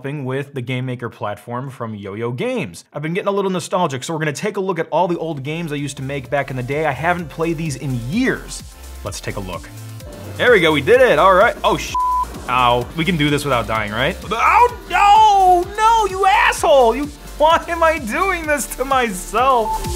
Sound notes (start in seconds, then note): 9.6 upbeat electronic music; 11.9 beep